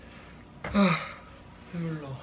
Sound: sigh

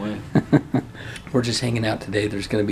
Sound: laughter

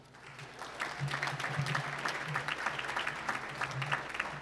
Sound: applause

